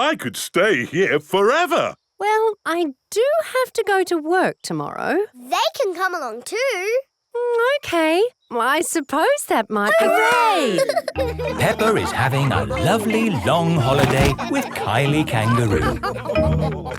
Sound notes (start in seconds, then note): 10.6 all laughing